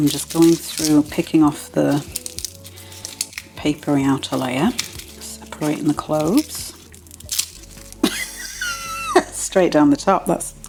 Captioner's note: papery rustling